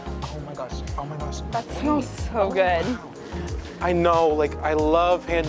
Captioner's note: background chatter